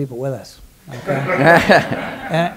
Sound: laughter

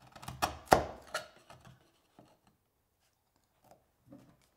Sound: chisel scraping

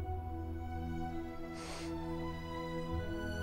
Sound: sniffles

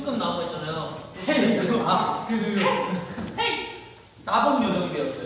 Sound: imitates Han

